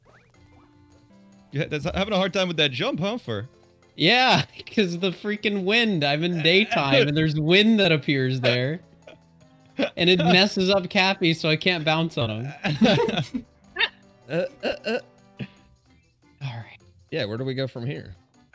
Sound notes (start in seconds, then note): 6.2 laughs; 9.8 laughs part 2; 12.4 giggles; 12.4 laughs; 14.3 strange chuckles